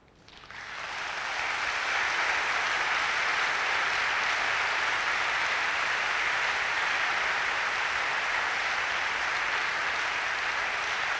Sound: applause

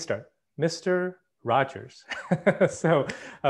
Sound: laughs

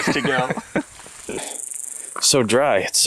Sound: laughs

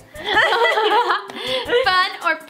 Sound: laughing together

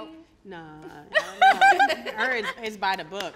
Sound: all laughing

